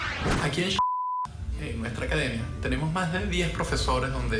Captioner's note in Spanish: Bip